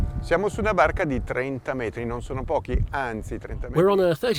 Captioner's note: speaking in foreign language